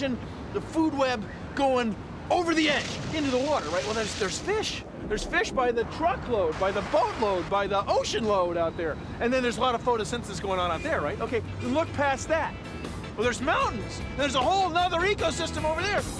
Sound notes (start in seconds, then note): none